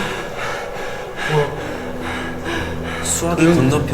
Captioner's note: breathing hard